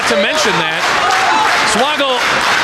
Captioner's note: audience clapping